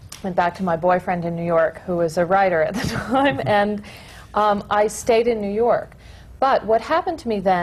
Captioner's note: laughs